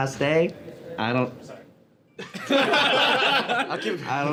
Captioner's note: all laughing